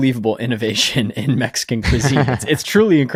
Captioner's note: laughing